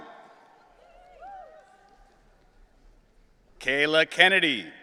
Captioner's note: audience cheering